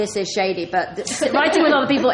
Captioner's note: laughs